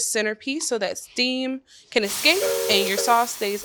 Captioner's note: steam release sound